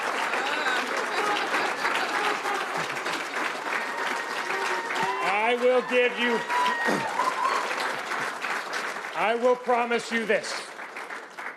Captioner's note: cheers and Applause